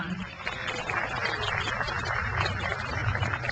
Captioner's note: crowd applauds